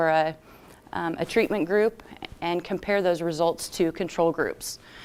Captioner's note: none